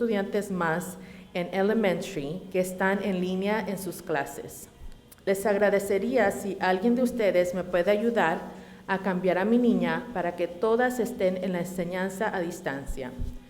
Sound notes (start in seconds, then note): none